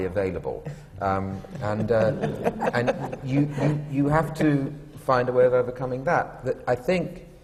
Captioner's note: laughter